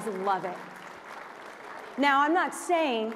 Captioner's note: applause